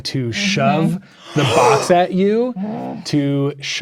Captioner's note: gasps